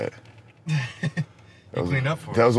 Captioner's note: laughing